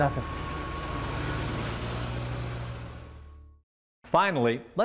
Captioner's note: bus driving away